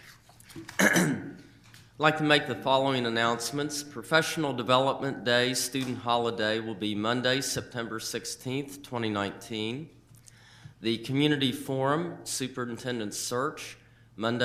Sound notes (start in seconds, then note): 0.6 coughs